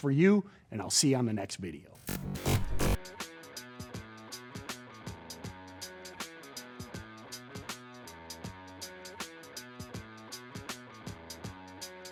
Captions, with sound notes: and I'll see you on the next video. (electric blast) (energetic rock music)